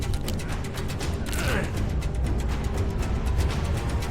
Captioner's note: bones cracking